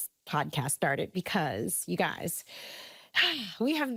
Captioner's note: deep breath